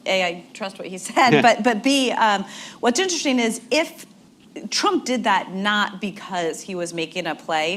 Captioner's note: laughter